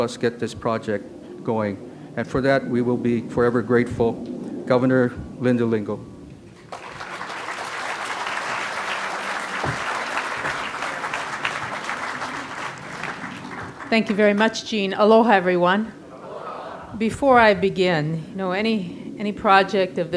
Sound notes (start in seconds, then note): 6.6 crowd applause; 16.0 crowd